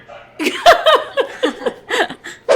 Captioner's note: laughing